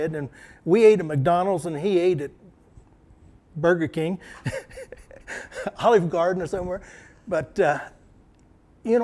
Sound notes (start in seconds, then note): 4.3 laughter